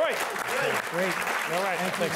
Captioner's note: applause